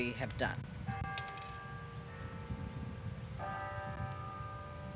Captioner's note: bell tolling